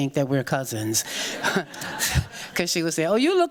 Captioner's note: people chuckling